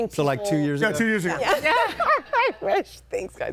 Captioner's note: laughs